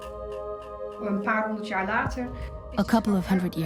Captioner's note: speaks Dutch